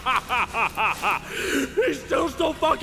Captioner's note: deep breath